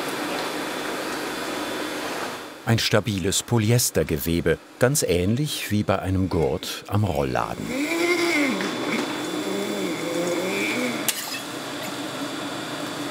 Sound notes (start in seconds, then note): 7.4 buzzing